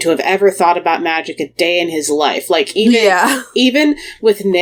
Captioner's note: laughs